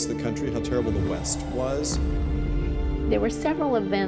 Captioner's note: explosion thunders